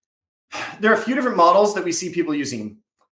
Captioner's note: sighs